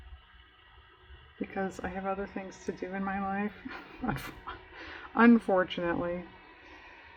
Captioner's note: laughs